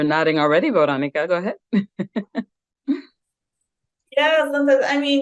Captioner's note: chuckles